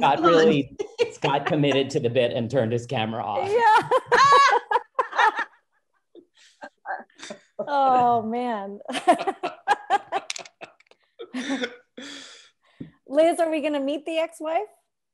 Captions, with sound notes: - Scott committed to the bit and turned his camera off. (laughs) - Oh man. (laughs) - Liz are we gonna meet the ex wife?